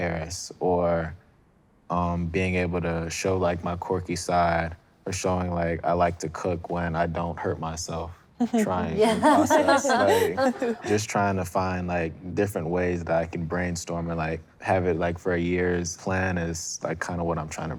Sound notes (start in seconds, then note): 8.5 laughter